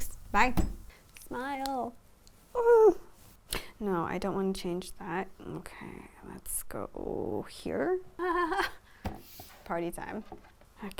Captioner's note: laughter